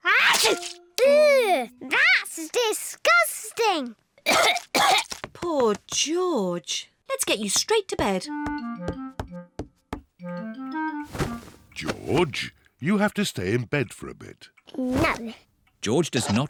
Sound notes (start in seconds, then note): 0.1 sneezes; 4.2 coughs